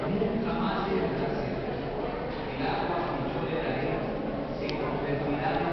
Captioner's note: chatter in the background